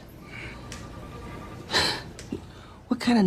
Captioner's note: scoffs